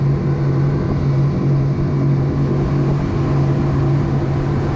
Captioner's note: engines roaring